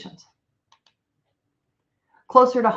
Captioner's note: computer mouse clicks